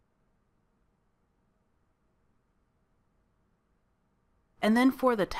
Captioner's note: silence